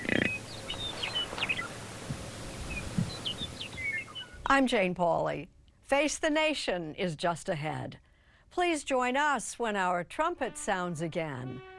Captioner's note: birds chirping